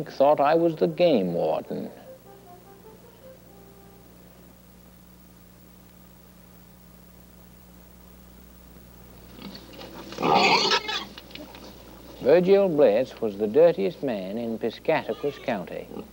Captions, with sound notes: thought I was the game warden? (pigs squealing) Virgil Bliss was the dirtiest man in Piscataquis County.